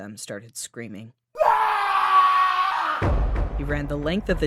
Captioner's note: man screaming